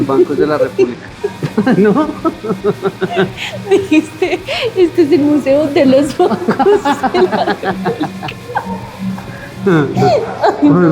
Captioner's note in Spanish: risas